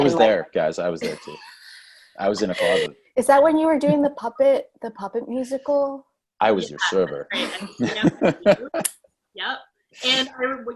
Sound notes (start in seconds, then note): 2.2 laugh; 6.4 laugh